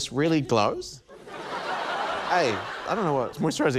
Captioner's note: laughter